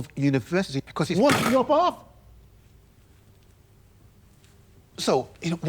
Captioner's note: James smacking table